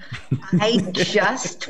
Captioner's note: laughing